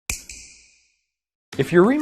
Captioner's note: snap